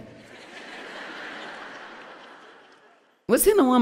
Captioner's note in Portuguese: audiência ri